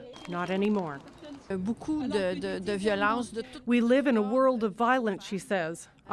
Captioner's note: speaking French